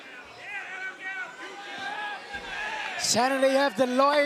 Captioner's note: crowd chatter